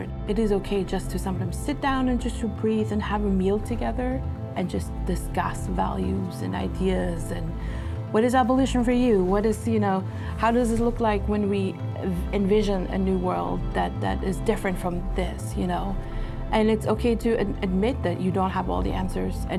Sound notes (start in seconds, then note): none